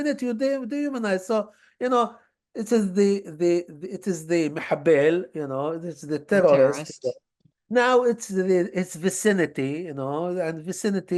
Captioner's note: hebrew